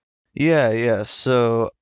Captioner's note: none